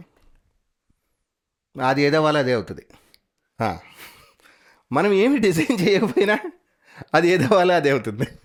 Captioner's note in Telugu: నవ్వు